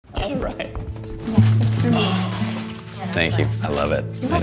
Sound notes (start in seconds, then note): 0.0 relaxing music; 0.7 footsteps thudding